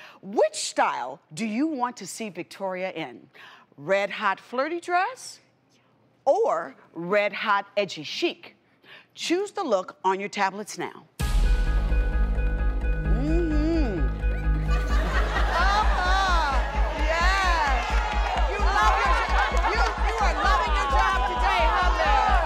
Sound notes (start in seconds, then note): 14.4 audience laughs